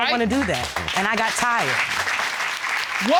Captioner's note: applause